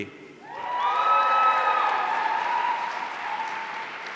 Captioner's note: audience cheering